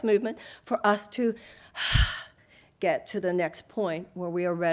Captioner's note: sighs